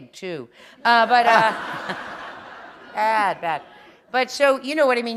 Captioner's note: laughter